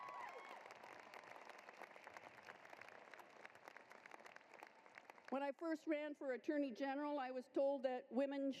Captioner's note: applause